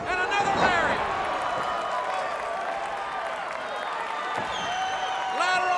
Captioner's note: crowd cheering